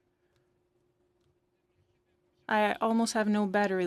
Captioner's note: speaking in French